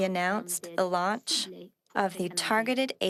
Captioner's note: speaking French